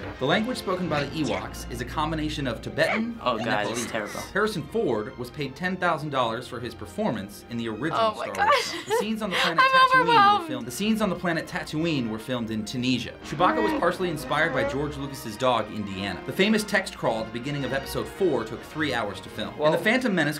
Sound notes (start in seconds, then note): 4.3 voice-over; 8.3 laughing; 10.5 voice-over